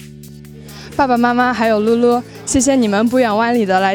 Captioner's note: non-english speech